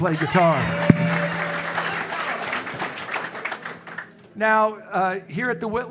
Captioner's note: audience cheering; audience applauding